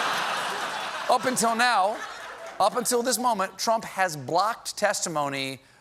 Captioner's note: laughter